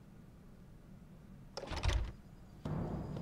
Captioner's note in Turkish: Kapı açılma sesi